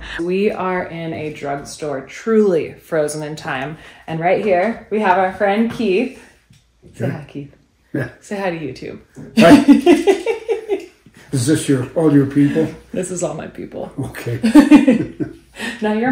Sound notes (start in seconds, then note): 9.4 laughing